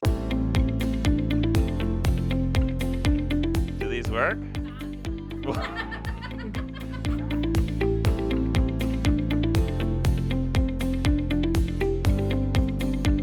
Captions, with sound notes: (bright upbeat music) Do these work. (group laughs) (bright upbeat music)